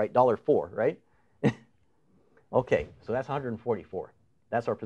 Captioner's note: chuckles